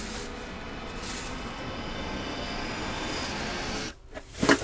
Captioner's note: bag crunching; mysterious music builds